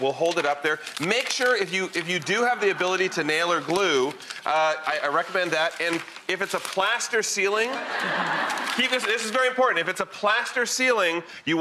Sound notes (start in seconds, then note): 7.6 audience laughing